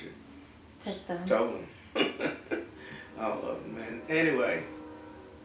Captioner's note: laugh